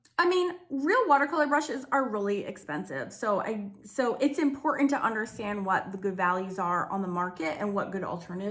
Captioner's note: none